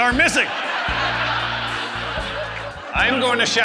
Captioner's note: audience Laughter